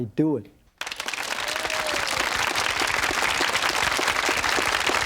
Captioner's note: audience applauding